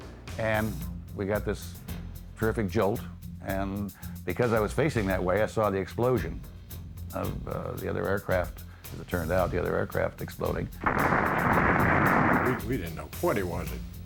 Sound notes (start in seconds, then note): 10.8 explosion